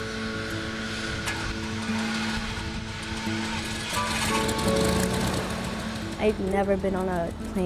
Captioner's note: plane engine starting